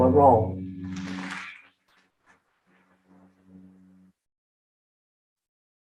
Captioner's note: audience applauding